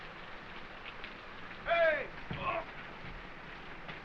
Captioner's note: grunts